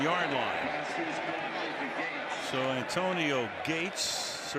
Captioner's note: pa announcement